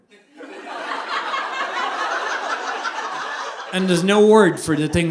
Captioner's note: audience laughing